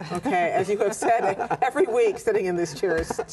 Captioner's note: laughter